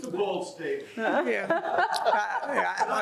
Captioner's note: panelists laughing